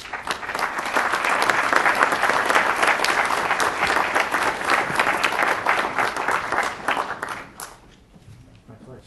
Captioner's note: applause